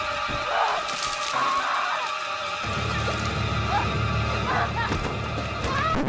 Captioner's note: liquid splashing; woman shouting